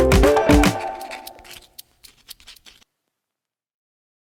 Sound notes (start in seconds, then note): 0.2 scribbling sound